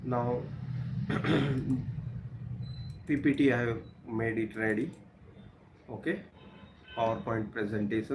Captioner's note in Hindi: गला साफ़ करने की आवाज़